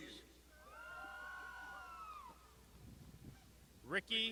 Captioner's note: crowd shouting